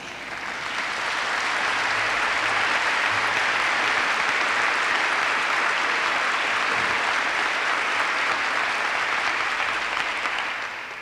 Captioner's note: applause